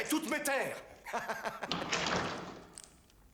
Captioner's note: doors close